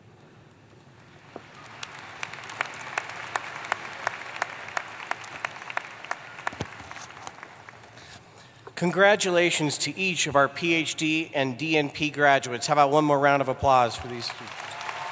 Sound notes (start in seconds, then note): 1.2 applause; 13.9 applause